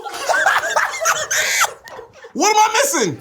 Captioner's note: all laugh